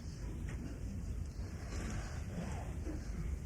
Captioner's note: laughs